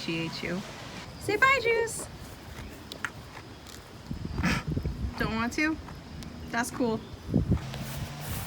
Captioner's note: laughing